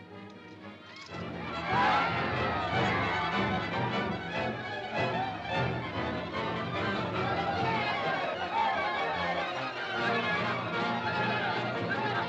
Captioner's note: suspenseful music; crowd clamoring